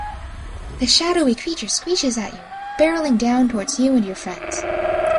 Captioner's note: long, drawn out creature cry, as if gaping its mouth